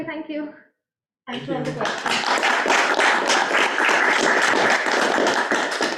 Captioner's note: audience applauding